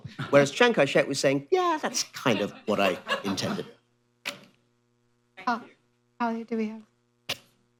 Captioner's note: laughter